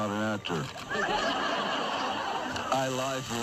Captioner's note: laughing